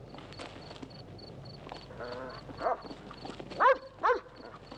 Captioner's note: Sacha barking